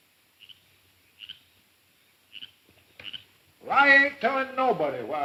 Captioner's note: frog croaking